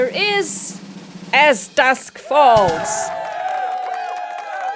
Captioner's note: cheering